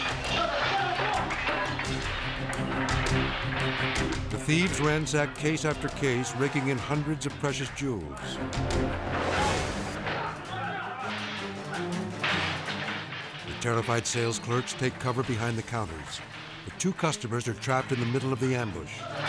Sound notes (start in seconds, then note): 2.3 machetes smashing; 10.9 glass shattering